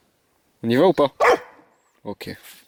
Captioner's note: bark